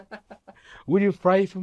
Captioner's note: laughing